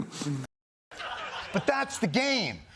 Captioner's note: laughing